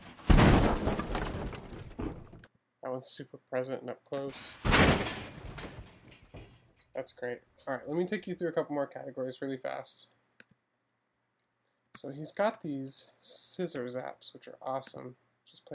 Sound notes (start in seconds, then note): 0.0 heavy metallic thudding and rustling; 4.5 metallic rattling and thudding